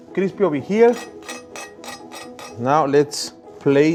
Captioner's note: knife scraping